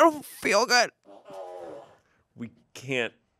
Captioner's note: fart machine farts